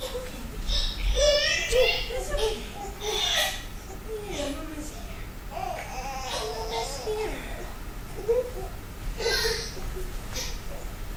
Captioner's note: baby crying